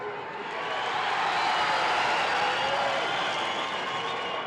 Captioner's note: crowd cheers